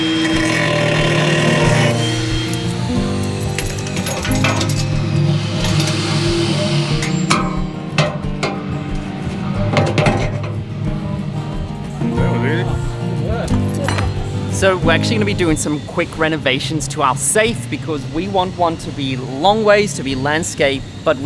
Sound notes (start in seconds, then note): 1.7 tools clattering; 7.8 metal clanking